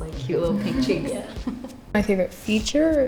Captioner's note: everyone chuckling